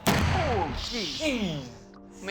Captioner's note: explosion